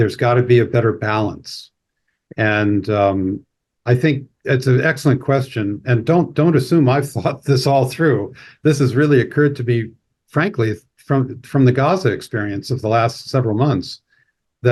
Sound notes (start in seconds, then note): 6.0 laughs